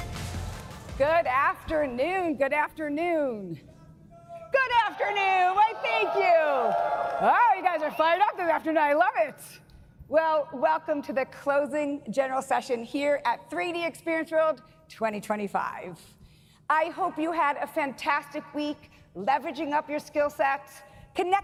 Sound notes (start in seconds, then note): 4.9 audience cheering